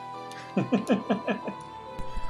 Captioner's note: laughs